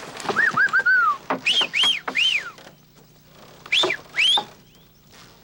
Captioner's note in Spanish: Silbido